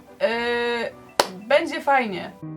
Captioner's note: clap